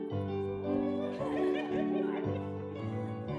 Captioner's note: giggling